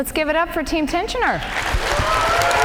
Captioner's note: cheers and applause